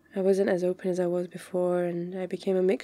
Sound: none

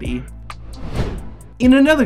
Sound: whooshing

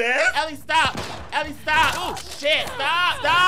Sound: gun blasting; wood cracking; Ellie grunting

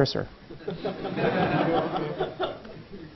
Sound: laugh

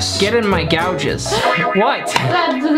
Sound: laughs

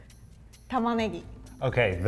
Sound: speaks in foreign language

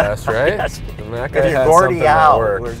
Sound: laughter

